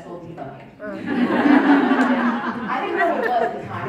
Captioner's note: crowd Laughing